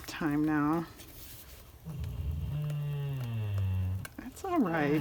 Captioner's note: a dog growling